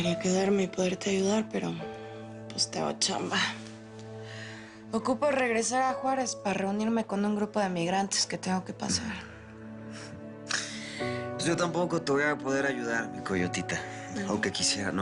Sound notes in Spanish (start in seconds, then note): none